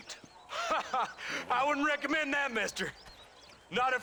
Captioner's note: laughs